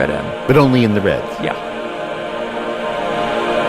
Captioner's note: recorded Voiceover; choir singing